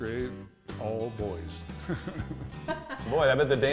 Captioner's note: laugh